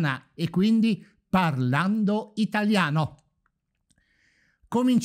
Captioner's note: speaking italian!